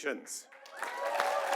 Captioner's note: applause